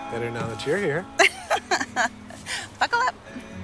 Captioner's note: laughing